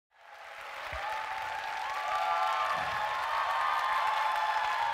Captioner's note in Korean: 박수와 환호